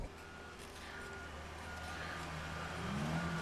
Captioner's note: truck beeping